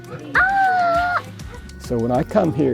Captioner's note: little boy yells